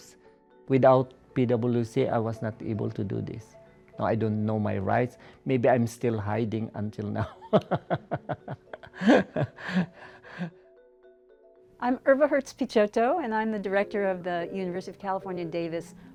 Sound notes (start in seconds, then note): 7.2 laughs